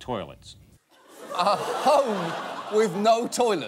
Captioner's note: audience laughs